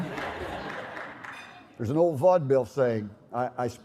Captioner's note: laughter